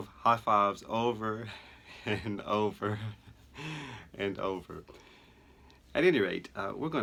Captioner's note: chuckle